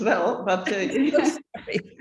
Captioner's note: laughter